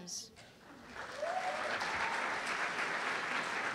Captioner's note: applause